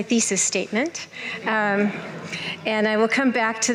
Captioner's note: laughter